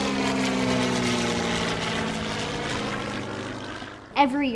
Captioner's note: plane passing